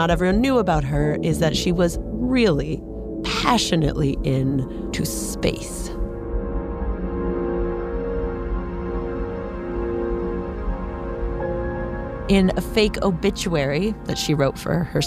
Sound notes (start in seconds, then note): none